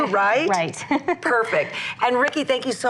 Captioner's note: laughs